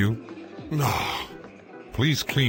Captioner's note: groan